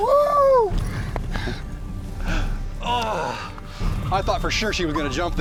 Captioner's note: grunts